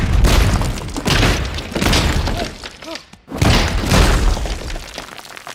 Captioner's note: smashing rocks effects